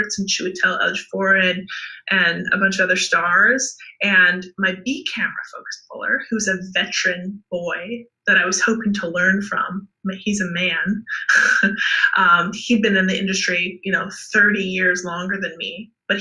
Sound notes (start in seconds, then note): 10.8 laughs